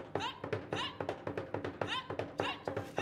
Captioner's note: woman shouting; drum beating and beads rattling